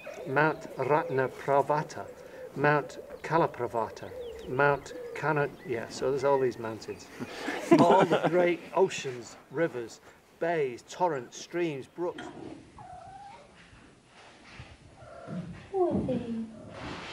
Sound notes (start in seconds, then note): 7.2 laughter; 12.6 cat purring